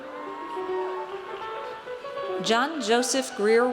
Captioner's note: audience cheers